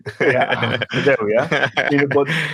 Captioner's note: speakers laughing